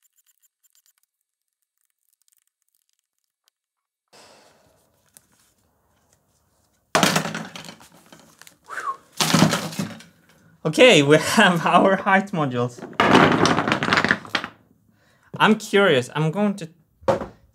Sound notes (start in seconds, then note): 4.1 exhales through respirator; 7.0 crash; 8.6 whistles; 9.2 crash